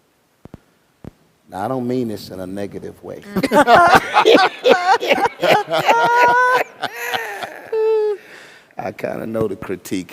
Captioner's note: laughter